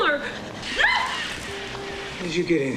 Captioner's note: yelps